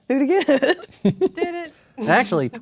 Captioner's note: laughing